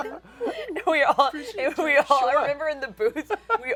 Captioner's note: laughter